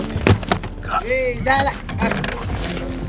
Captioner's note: foreign language